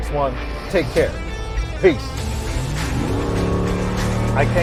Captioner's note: engine revving loudly